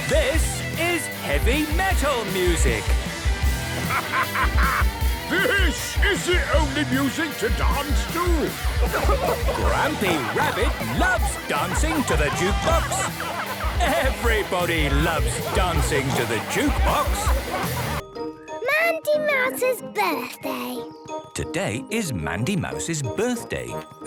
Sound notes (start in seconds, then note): 0.3 shouting; 10.1 shouting